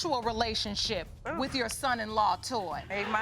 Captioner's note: groans